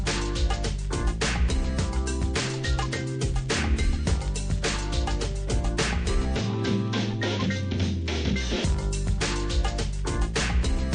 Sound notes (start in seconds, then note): none